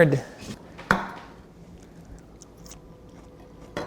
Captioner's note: knife chops